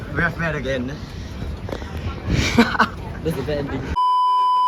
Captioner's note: laughs